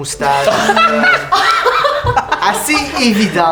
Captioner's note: laughter